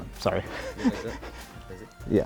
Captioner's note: chuckling